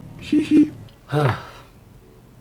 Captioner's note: another sigh